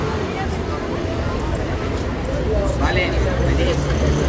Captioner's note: engine rumbling; voices, traffic noises; speaking spanish